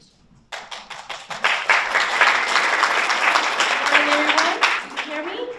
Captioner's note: audience applauds